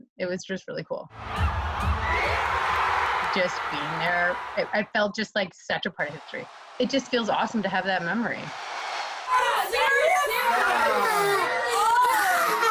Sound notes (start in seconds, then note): 4.3 cheers and applause; 12.4 crowd Noise